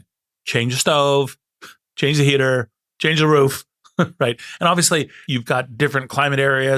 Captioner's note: laugh